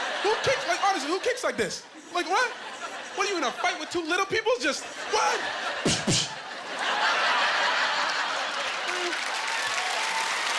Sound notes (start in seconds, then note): 6.8 laughing; 7.7 applause